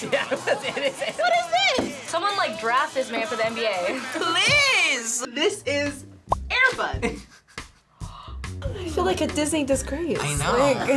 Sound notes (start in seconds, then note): 0.0 laughs; 7.9 gasps